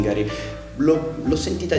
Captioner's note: holds breath in italian